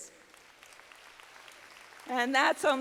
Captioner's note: audience clapping